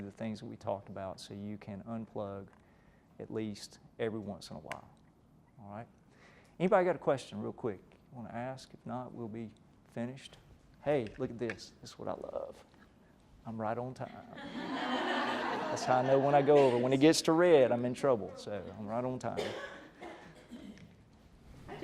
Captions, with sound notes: things that we talked about so you can unplug at least every once in a while, alright? Anybody got a question real quick you wanna ask? If not, we'll be finished. Hey, look at this, this is what I love. I'm right on time. (laughter) That's how I know when I go over. When it gets to red I'm in trouble so I'm right on time.